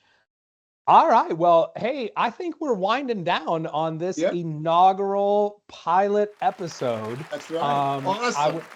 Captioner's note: clapping cheering